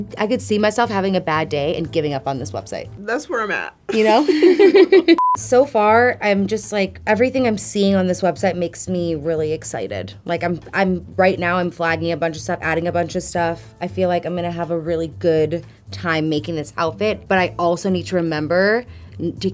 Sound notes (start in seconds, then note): 3.9 both laughing